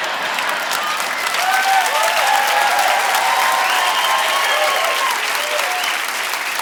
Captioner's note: audience laughing and applauding